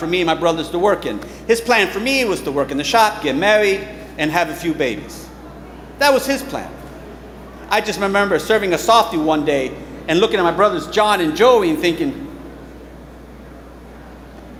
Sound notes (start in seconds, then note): none